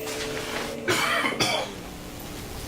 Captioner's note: chokes